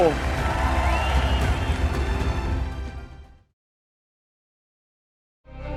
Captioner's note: applause